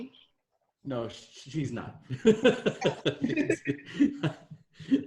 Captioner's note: laughs